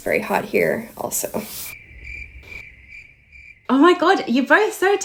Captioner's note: crickets chirping